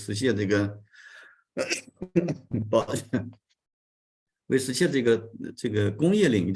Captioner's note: continues to speak in Chinese